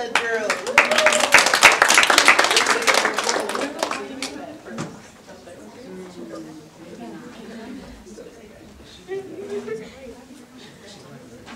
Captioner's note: audience applause